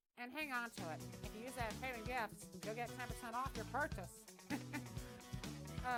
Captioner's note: laughing